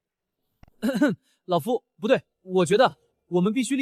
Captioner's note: ahem